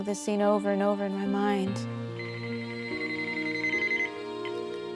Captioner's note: phone ringing